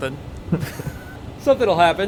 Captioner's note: chuckles